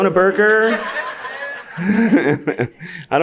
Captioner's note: audience laughs; laughs